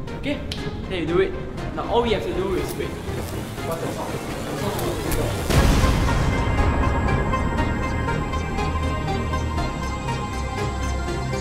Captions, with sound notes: Okay! That will do it. - Now all we have to do is- - ( machine sparks ) -wait... - What’s that sound? - ( machine sparks uncontrollably ) It’s not supposed to do that- ( machine explodes )